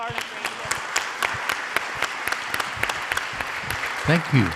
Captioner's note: audience applauds